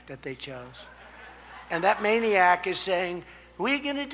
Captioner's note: laughter